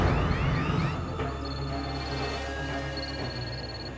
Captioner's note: phone ringing